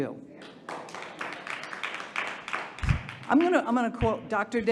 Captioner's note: audience applauding